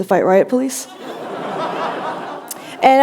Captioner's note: laughter